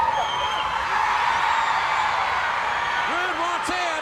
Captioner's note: crowd cheers